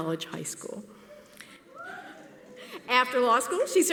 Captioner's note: whooping from audience member